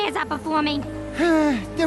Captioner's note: sighs